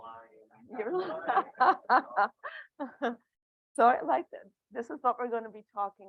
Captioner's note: laughing